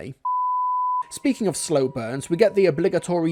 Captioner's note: beep